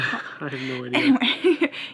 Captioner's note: chuckles